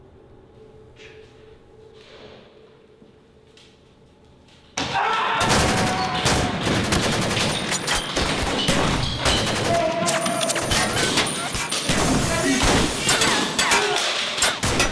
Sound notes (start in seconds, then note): 4.8 shouts and gunfire; 9.2 gunshots